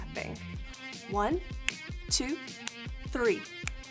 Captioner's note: snaps; snapping